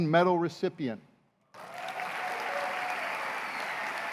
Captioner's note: applause